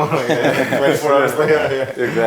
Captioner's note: group laughing